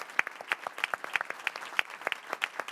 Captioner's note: applause